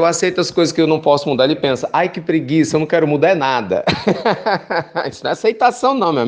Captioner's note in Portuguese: risos